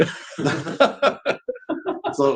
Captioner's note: laughs